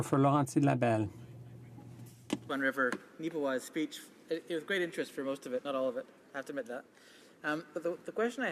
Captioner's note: speaking French